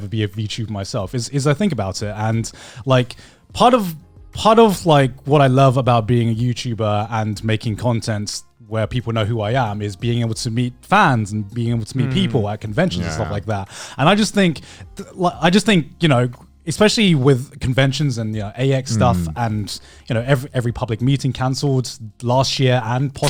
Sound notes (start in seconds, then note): 12.7 affirmative murmuring